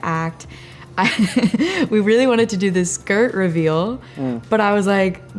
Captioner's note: laughs